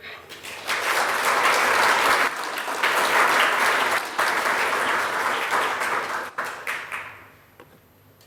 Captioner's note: audience applauding